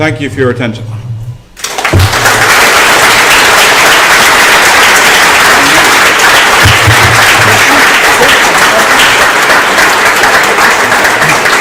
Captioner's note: applause